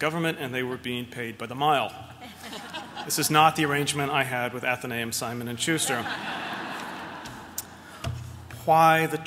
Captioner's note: laughter